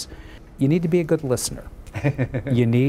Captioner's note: laughing